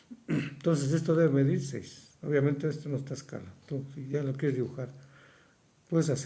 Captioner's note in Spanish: carraspeo